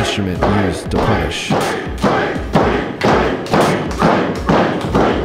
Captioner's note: shouting